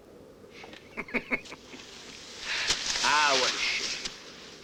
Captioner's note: chuckles